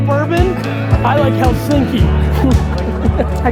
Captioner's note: laughs